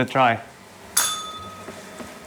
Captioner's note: bell rings